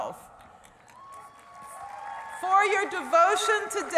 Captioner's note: applause